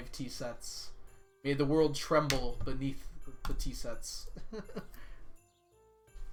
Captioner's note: laughs